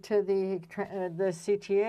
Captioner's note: speaking french